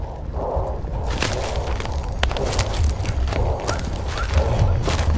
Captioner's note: branches cracking